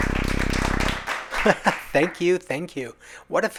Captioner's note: sparse applause; laughs